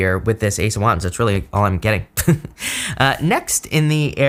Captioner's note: chuckles